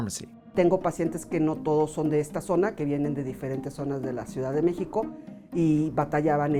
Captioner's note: speaking in foreign language